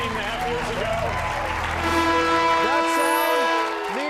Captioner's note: horn blares